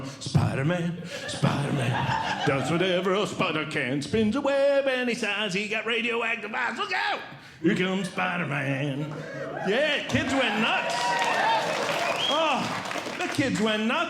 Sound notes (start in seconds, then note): 0.1 singing; 11.0 audience Cheering